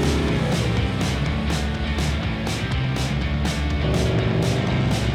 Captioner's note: upbeat music; engine humming; upbeat music